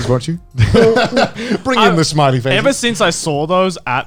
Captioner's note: laughs